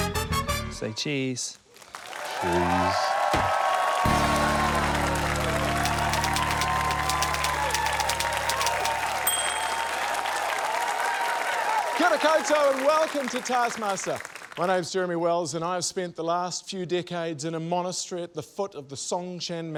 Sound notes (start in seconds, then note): 2.8 cheering, applause; 9.2 ding!